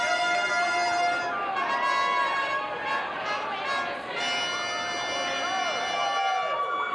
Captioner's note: trumpet plays; crowd cheers